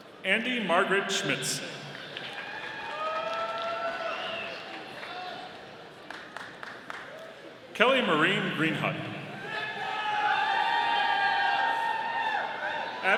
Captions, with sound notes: Andie Margaret Schmitz. (audience cheering) Kelly Maureen Greenhut. (audience cheering)